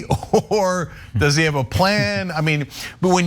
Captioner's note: laugh